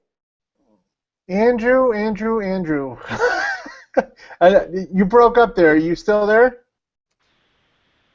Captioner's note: laughing